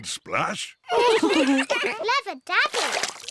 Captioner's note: all laugh